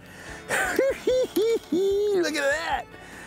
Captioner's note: cackling